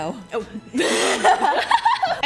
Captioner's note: laughs